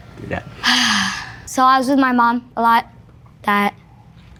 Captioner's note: exhales noisily